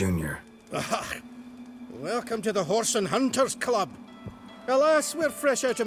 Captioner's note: wry chuckle